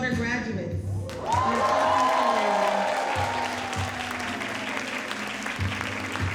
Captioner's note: audience cheering and applauding